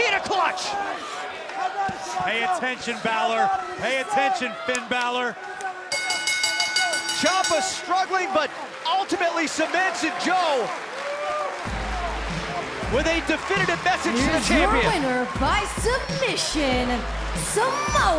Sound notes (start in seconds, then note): 5.9 bell ringing; 11.6 crowd cheering